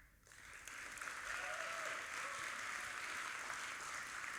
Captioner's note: audience applauding